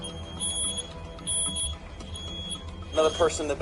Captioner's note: smoke alarm beeping